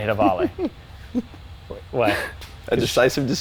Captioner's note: laughing